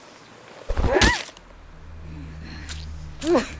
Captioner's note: screaming